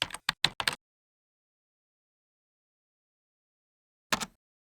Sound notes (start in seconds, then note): 1.1 keyboard clacks